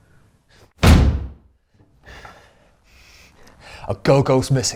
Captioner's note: fist thuds